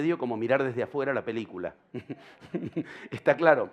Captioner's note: laughter